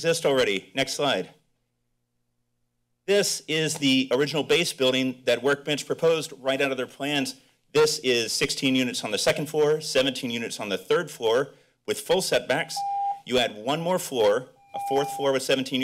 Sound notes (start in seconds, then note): 14.7 timer rings